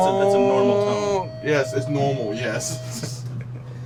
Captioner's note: tone sounding; some chuckling